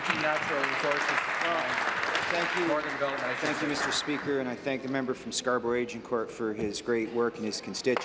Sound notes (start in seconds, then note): 1.9 applause